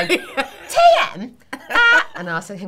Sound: whining voice

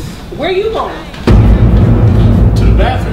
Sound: explosion

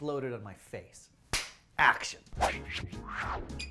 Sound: claps; festive music

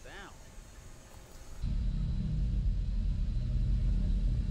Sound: low drone hum

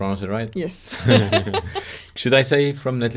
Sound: both laugh

